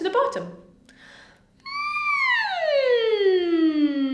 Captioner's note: humming